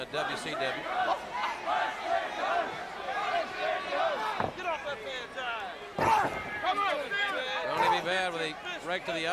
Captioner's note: crowd cheering